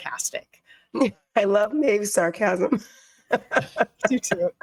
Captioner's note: giggling